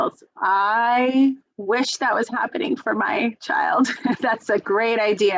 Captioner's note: laughs